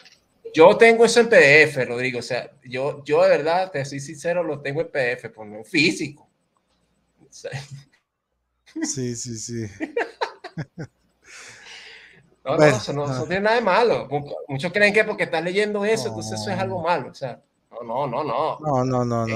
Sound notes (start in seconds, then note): 9.7 laughs